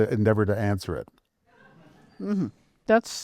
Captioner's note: laughter